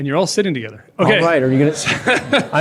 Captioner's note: laughter